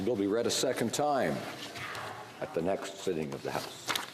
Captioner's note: speaking French